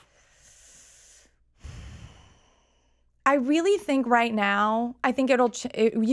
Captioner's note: breathes deeply